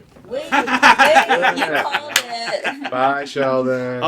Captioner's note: laughter